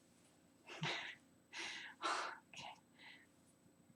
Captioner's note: laughing sighs